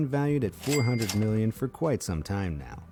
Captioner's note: cash register ringing